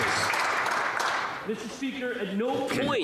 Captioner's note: some Applause